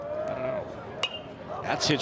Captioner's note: bat dings